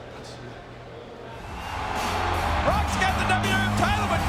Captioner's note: audience cheering; upbeat music